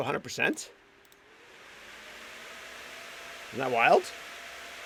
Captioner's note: GPU fans whirring